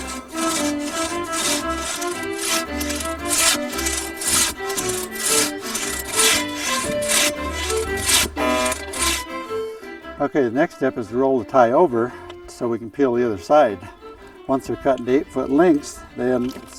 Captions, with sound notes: (wood sawing) The next step is to roll the tie over, so we can peel the other side. Once you've cut the eight foot lengths,